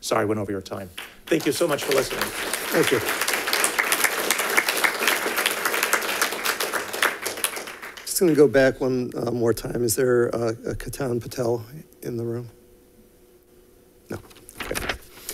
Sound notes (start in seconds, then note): 3.0 congregation claps